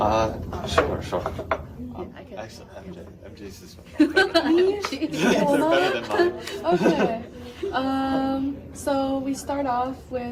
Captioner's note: laughing